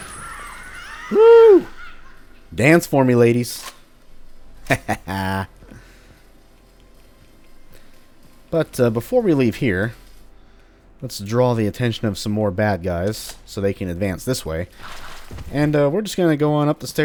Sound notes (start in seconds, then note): 5.9 sly chuckle